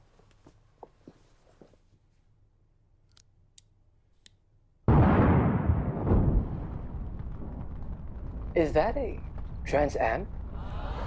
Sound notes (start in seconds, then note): 4.8 explosion